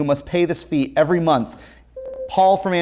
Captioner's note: ringing